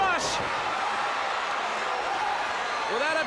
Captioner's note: crowd cheering